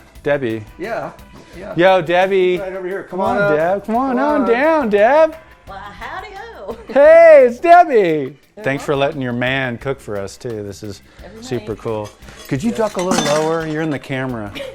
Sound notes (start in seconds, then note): 6.6 laughs